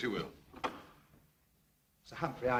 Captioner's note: door opens